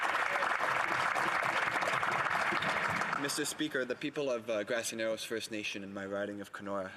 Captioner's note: some Applause